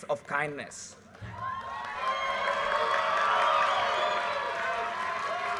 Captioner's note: audience cheers and applause